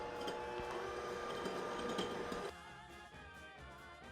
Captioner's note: slow whirring; fast whirring